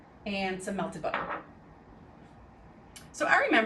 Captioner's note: cup clattering